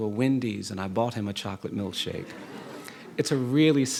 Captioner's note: audience laughing